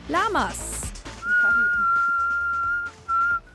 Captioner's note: she whistles